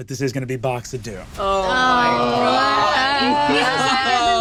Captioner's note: groans